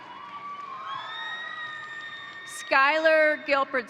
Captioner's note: crowd applauding; crowd cheering